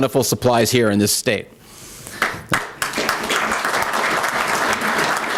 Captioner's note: applause